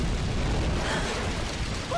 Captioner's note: gasp of realization